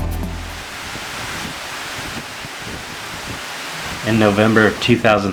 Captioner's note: raindrops pouring